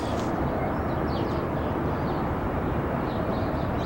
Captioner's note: birds chirping